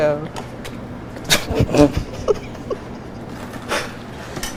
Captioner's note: cooks chuckling